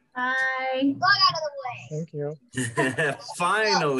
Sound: all laugh

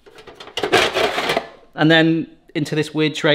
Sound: metal clanking

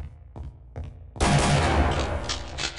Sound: shotgun bang!

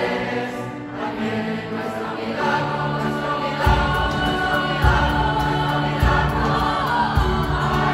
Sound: voices

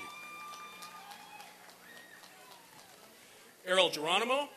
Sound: applause and cheering

